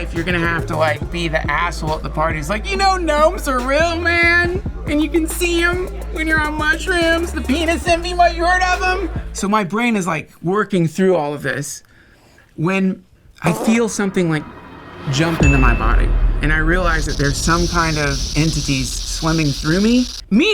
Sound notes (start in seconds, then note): 13.4 fart; 15.4 bell dings; 16.5 electrical pulses